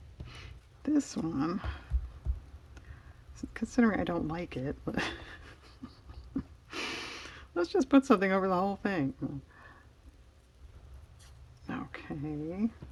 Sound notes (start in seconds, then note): 4.9 laughs